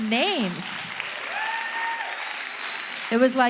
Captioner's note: audience applauding